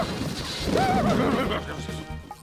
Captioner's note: clattering